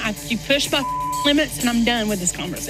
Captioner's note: beep